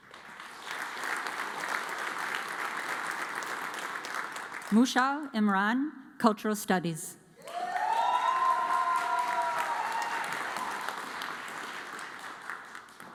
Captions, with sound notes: (audience applauds) Musha Imran, Cultural Studies. (audience cheers and applauds)